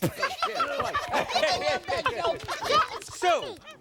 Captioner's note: laughing